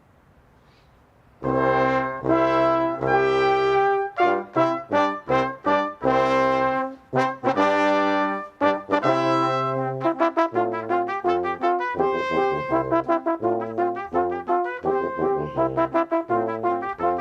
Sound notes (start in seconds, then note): none